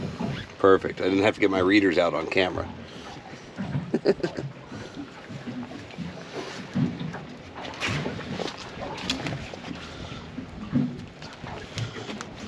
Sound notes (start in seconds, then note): 3.8 chuckling; 6.6 water lapping